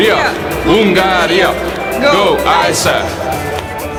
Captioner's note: chanting